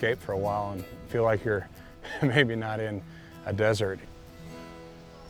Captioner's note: laughs